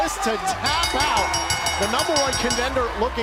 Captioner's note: bell ringing